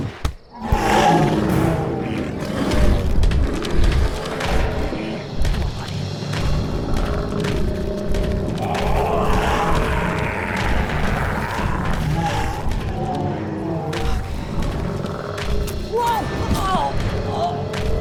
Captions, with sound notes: -(BANANA THUDDING) -(ZOMBIE SPARTACUS ROARING) Come on, buddy. (ZOMBIE SPARTACUS GROWLING) Okay. Whoa!